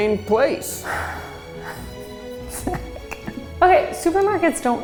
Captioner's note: woman sighs